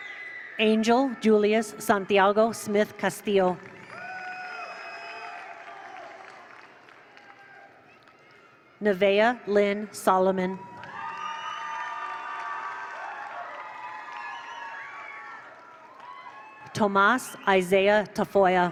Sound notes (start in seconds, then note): 3.6 attendees applaud; 4.0 attendees cheer; 10.4 attendees cheer; 10.8 attendees applaud